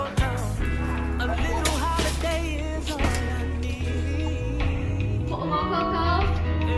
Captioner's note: shopping cart crashing